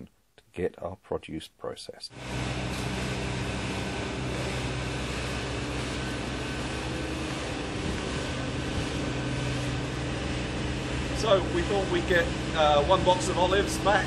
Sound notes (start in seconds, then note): 2.1 loud machinery